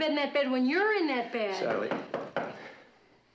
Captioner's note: knocking on door